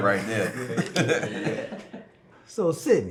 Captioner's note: family laughing